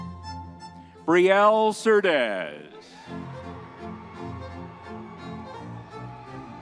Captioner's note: crowd cheering